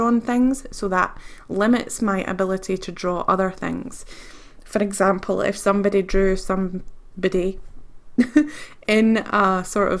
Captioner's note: giggles